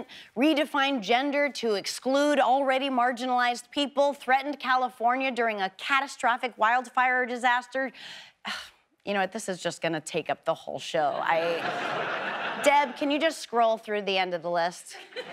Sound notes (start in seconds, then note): 8.5 sighs; 11.2 audience laughs